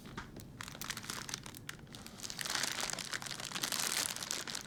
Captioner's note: plastic crinkling